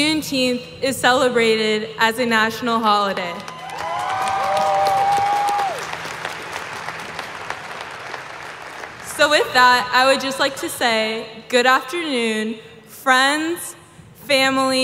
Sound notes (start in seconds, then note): 9.6 applause